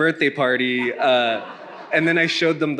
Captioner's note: attendee laughing